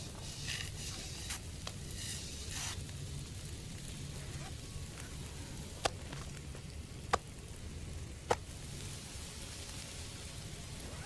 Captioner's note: rocks tumbling somewhere in the cave